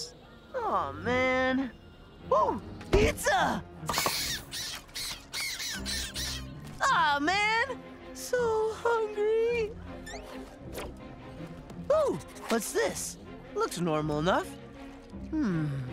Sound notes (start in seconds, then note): 3.9 squeaking